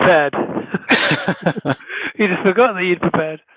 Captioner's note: laughing